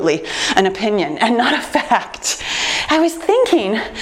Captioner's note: laughs